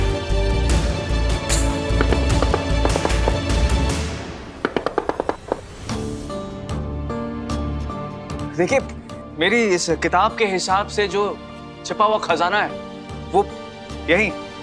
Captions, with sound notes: [knocking] According to the book, the treasure is buried right here.